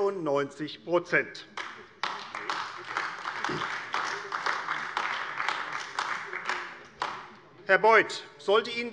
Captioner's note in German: Beifall AfD